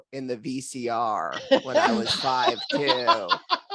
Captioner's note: all laugh